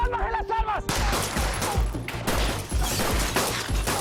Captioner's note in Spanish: Disparos